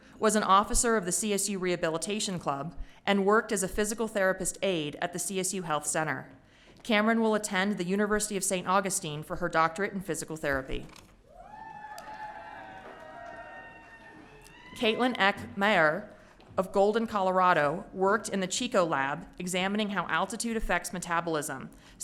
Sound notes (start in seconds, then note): 11.3 audience cheering